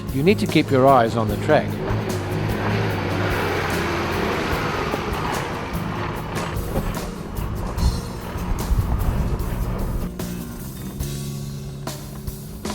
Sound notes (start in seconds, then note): 2.0 vehicle sounds